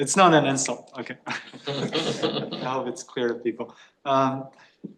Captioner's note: laughter